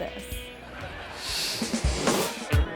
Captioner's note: audience laughing; image whooshes; upbeat music